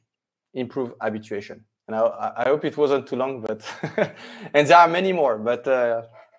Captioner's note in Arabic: يضحك